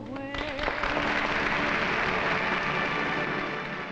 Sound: audience applauds

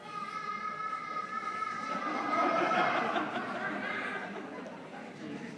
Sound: people continue chattering

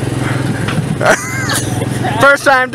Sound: laughs

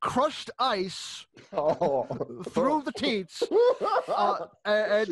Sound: laughter and groans

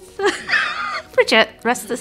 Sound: laughs

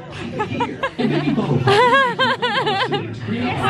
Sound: laughing

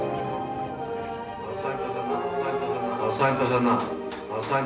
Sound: echoing

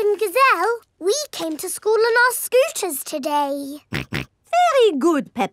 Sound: snorts

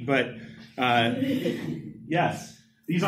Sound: laughter

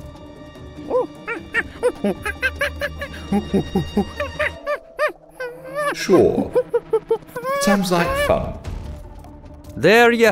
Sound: ape noises

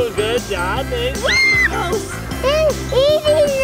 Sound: screams

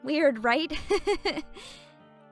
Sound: chuckles

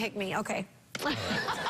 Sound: laughter

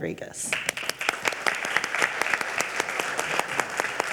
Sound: audience applauding

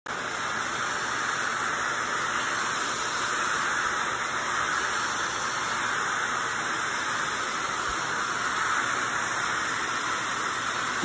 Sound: grout and tile cleaning machine hissing

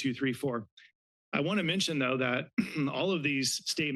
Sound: clears throat

